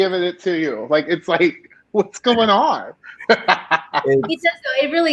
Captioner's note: laughing